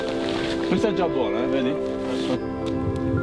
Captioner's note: in Italian